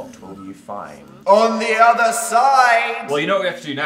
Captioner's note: echoing